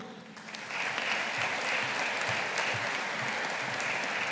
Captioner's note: audience applauding